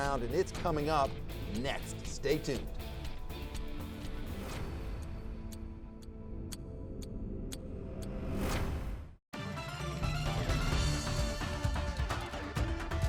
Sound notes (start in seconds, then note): 4.0 clock ticking; 9.4 upbeat music